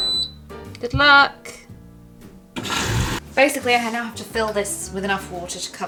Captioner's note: washing machine beeps